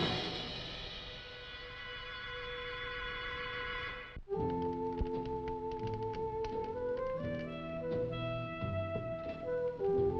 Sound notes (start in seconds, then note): 5.1 slow music; 6.3 fire crackling